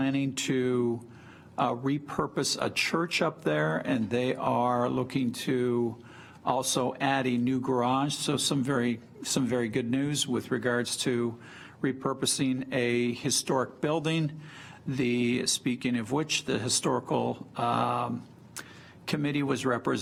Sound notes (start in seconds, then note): none